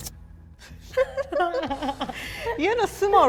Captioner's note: both chuckle